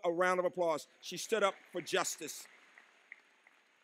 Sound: applause

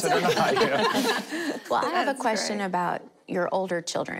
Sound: laughing

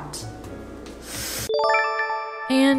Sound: chime

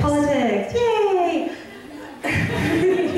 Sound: voiceover; audience laughing

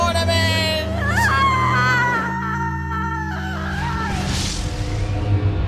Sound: discord screams

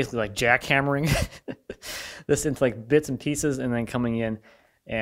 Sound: laughing

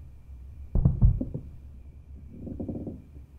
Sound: thud

